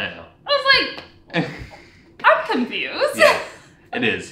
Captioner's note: laughs